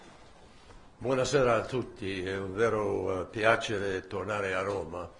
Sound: in Italian

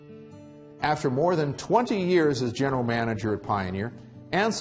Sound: voiceover

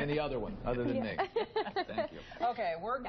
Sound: laugh

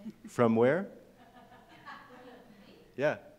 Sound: laughing

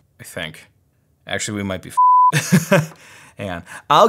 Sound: beep

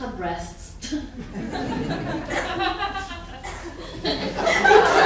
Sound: audience laughing

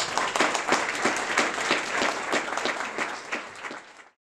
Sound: applause

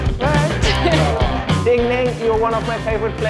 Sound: laughs loudly

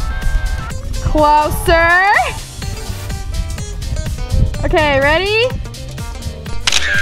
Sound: camera shutter click

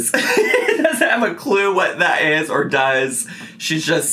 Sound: laughs

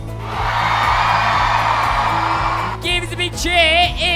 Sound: cheering

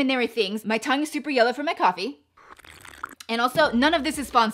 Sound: slurping

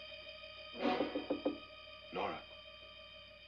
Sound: eerie music; softly knocking on door

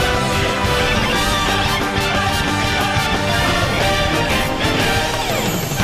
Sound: higher pitched

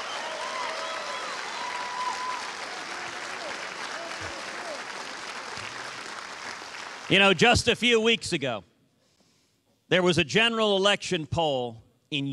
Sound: cheers and applause

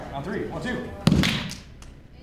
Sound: claps

